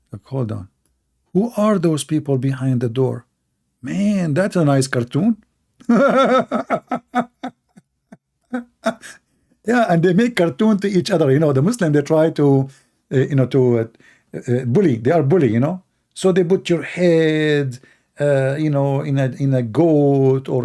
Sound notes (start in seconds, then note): 5.8 Ketawa